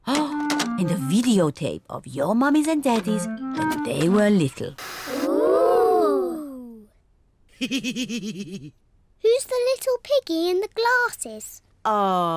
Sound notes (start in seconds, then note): 7.6 laughs